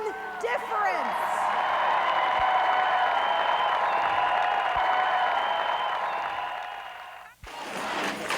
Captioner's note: crowd cheering; crowd chants and claps